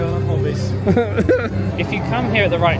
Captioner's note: laughs